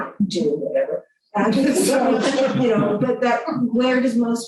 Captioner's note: laughter